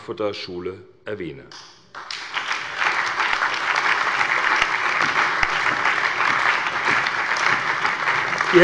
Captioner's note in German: Allgemeiner Beifall